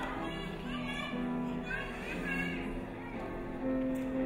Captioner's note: children playing